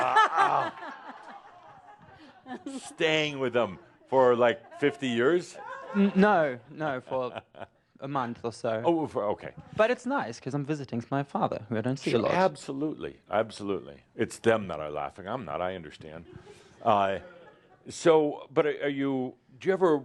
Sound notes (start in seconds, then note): 2.8 laughter; 5.2 chuckles